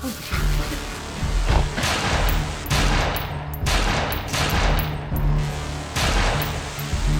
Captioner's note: intense music; gunshots banging